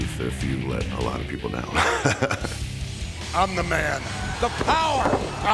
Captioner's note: laugh